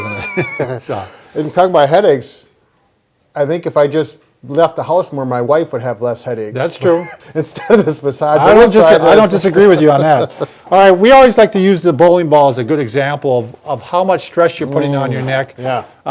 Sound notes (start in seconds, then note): 0.0 laughs; 6.8 laughing